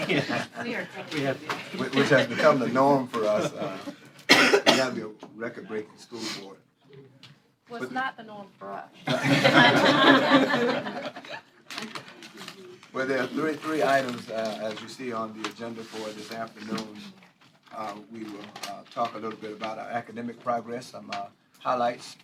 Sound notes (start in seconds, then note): 9.0 laughter